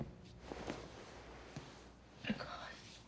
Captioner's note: voice cracking